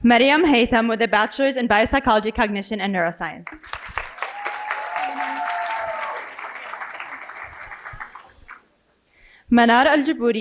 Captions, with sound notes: Mariam Heythem with a bachelor's in bio psychology, cognition and neuroscience. (cheering and applause)